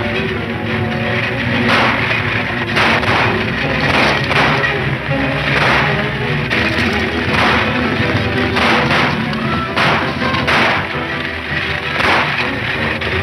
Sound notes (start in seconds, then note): 1.6 shots fire